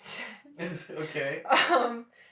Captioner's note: laughter